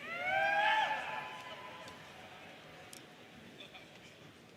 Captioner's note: audience cheers